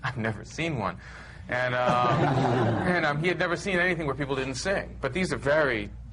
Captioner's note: laughter